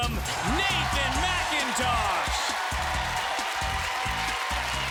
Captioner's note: applause